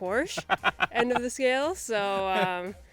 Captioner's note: laughs